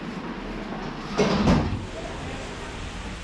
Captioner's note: door slamming